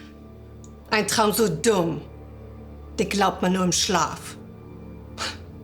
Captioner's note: Fredriech speaking German; Fredriech chuckling